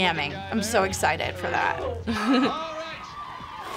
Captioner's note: chuckles